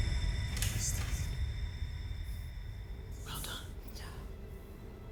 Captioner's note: whispering